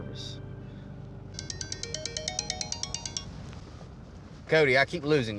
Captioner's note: phone rings